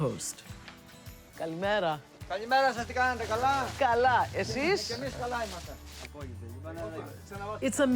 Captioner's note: speaking Greek